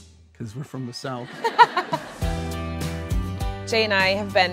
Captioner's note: laughs